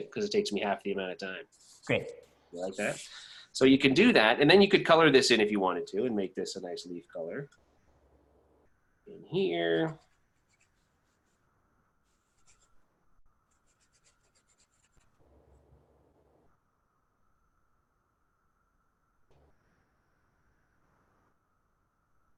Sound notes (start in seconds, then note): 13.3 long pause